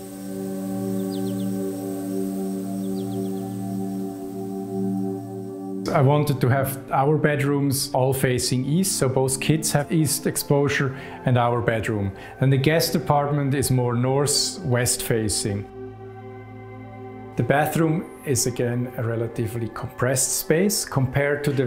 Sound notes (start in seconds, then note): 0.0 birds chirping; 0.9 ethereal music